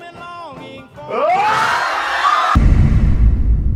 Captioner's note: screams!